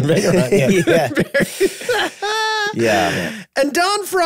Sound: group laughing

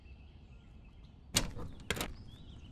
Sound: door

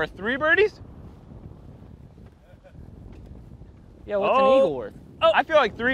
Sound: chuckles

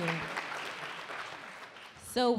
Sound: audience applauding

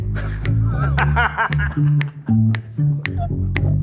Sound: laughs

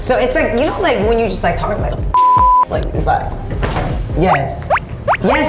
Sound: beep

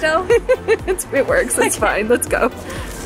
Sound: laughing

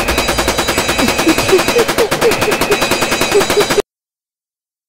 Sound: panting

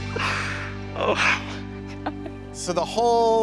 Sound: laughing

